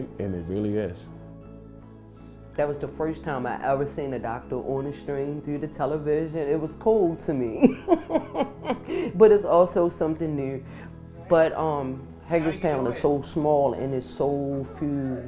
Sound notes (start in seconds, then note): 7.6 laughs